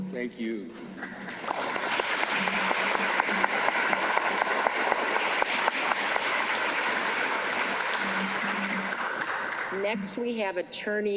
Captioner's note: applause